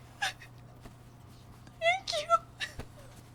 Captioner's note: Esther sniffles